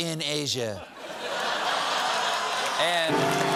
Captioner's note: laughter; applause